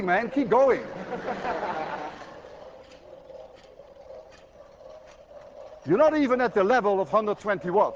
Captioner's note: students laugh